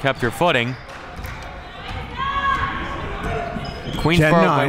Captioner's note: crowd murmuring